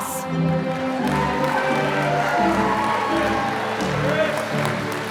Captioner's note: applause